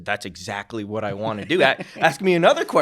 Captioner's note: chuckling